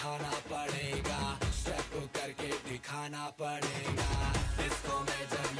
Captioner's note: speaking foreign language